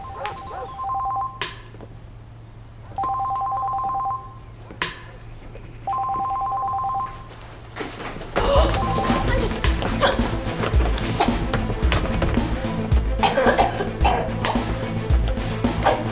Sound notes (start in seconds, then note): 0.8 phone ringing; 8.4 suspenseful music